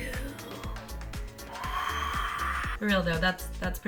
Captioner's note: breathing out scarily